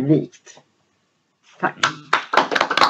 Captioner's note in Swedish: applåder